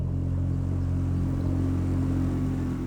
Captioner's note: engine noise